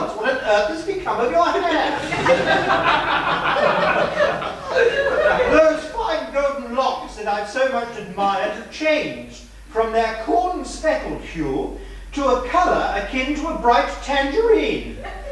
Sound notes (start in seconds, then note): 1.5 laughter